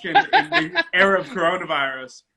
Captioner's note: laughs